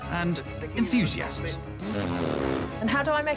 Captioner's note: blows raspberry